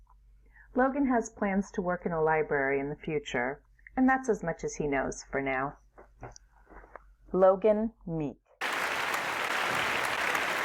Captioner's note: applause